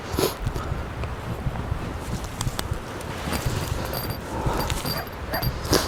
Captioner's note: nervous breathing; sniffs; coyote howls; nervous breathing